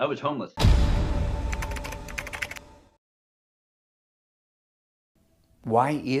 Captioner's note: surprising music; typewriter clacking